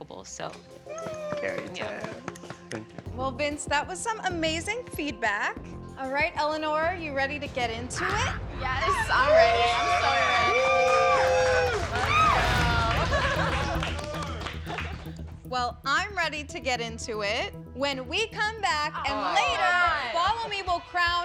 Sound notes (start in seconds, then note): 10.9 cheering